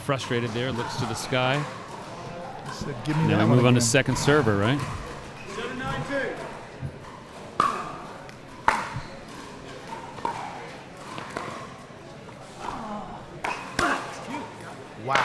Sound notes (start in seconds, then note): 8.6 ball clacking; 12.6 grunting